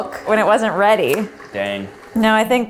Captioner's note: lip smacking